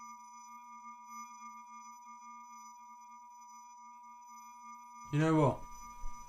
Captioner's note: high-pitched tone ringing